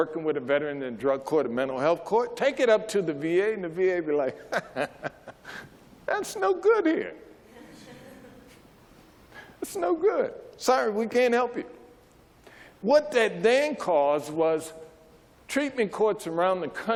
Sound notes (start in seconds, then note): 4.4 laughs